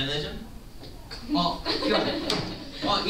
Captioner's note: laughter